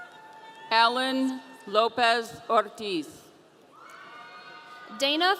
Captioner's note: audience cheering